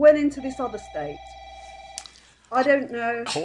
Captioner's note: phone rings